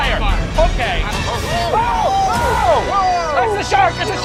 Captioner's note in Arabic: يصرخ